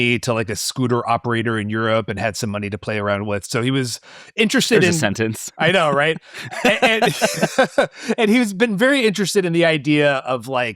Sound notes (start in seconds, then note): 5.6 laughs; 5.6 laughing